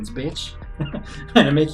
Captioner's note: Musky chuckles